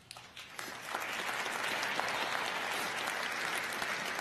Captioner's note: crowd applauding